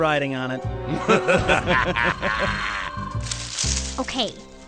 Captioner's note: laughter